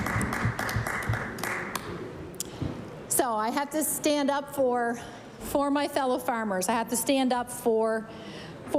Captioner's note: applause